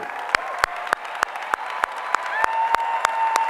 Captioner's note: applause